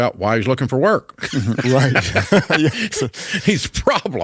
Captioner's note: both laughs